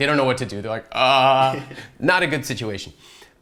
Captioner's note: laughs